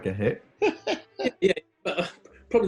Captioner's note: laughing